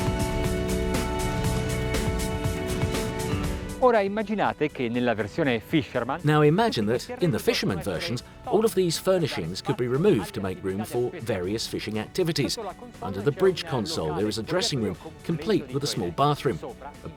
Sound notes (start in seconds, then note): 0.0 upbeat orchestral pop; 3.9 speaking Italian